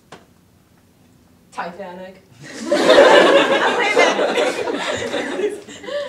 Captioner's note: audience laughter